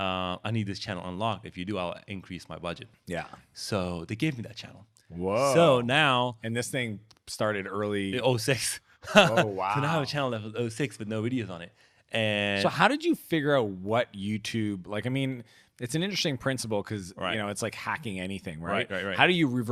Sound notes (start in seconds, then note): 9.0 chuckles